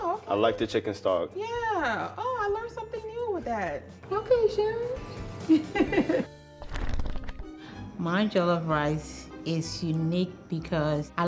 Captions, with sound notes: - Oh, okay. - I like the chicken stock. - Yeah. Oh, I learned something new with that. Okay, Sharon. (laughing) (pages fluttering) - My Joloff Rice is unique because